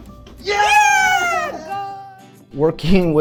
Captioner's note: people cheering